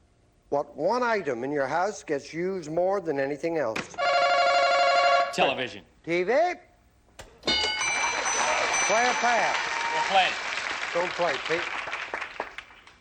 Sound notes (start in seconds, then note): 3.8 ringing; 7.4 dinging